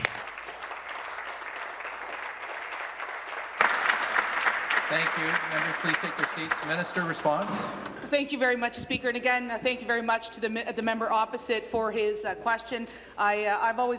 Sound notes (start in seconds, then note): 4.5 applause